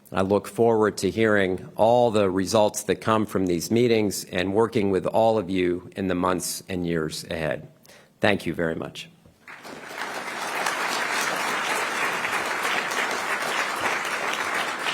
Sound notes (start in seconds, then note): 13.5 applause